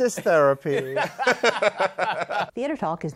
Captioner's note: laughter